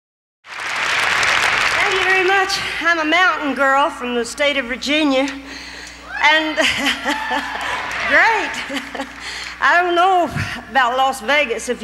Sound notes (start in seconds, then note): 0.4 crowd clapping; 6.6 chuckles